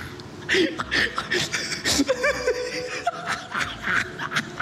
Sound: laughter continues

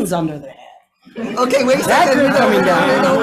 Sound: audience laughing

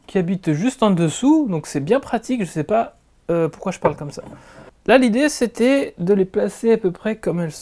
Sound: with an accent

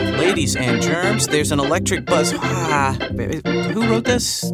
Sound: groans

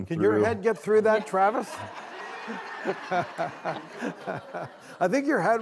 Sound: audience laughing

